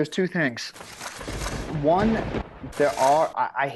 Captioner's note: lightning crashes